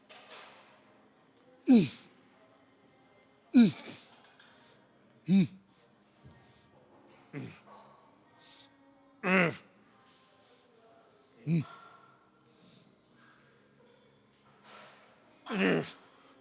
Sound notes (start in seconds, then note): 7.2 grunting